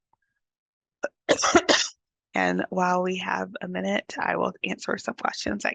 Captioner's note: coughs